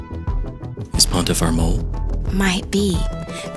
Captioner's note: whispering; also whispering